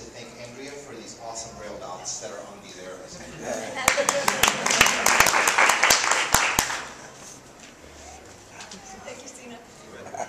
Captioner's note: laughs, claps